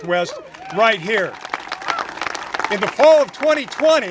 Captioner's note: congregation applaud